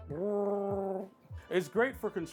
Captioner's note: growling